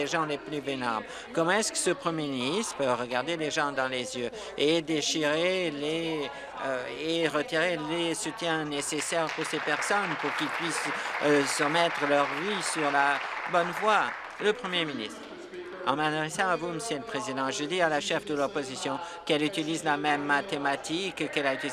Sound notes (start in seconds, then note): 12.2 applause